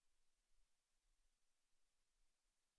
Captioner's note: none